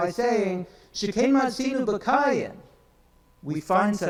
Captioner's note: speaks in foreign language